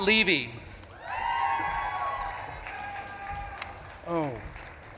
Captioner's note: audience claps and cheers